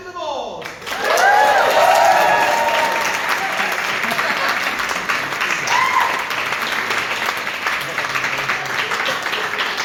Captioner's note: audience applaud and cheer